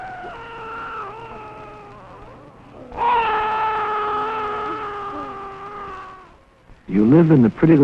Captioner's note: baby crying